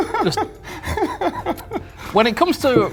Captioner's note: laughing